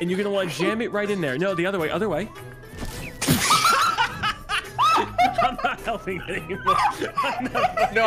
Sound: laughs

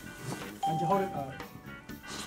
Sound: bell rings

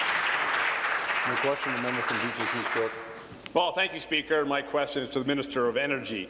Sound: applause

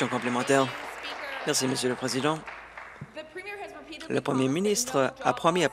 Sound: voice trails

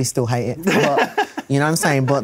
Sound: laughs

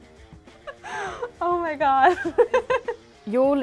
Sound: giggles

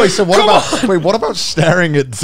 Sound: laughing

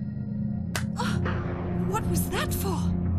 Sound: slap

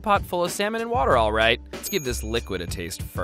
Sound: bell dings

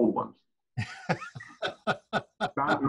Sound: laughs

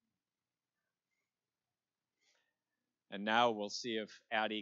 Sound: none

